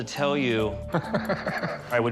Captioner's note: laughs